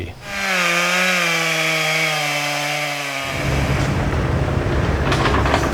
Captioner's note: saw motor running; bull dozer running